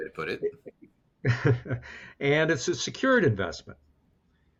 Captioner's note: chuckles